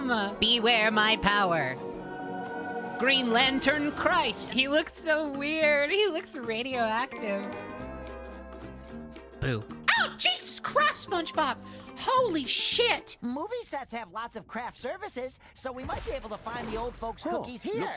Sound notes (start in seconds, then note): 0.3 SpongeBob Voice; 9.3 SpongeBob Voice; 9.8 Sandy Voice